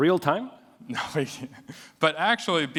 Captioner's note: laughs